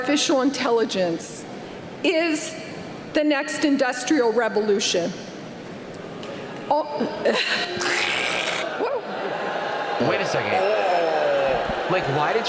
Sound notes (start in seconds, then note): 7.8 crowd booing